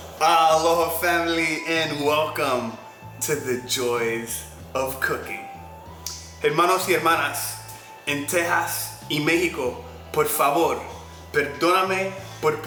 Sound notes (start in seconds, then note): 6.6 speaking in Spanish